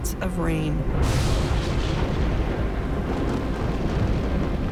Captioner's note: thunder rumbling